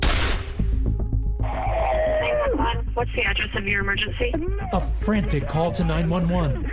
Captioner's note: gunfire